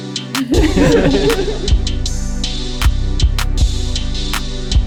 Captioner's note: joyous laughter